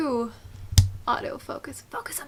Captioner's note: click